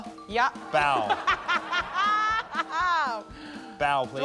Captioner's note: laughs